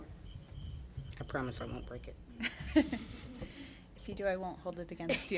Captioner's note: audience chuckling